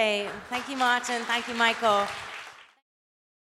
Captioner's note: applause